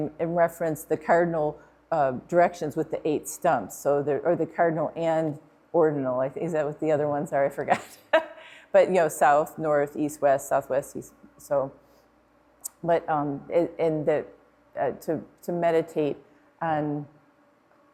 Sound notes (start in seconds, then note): 7.6 laughing